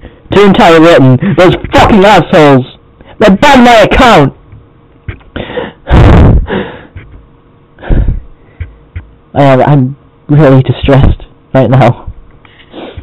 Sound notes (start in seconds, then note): 0.0 sobs; 5.0 whimpers and exhales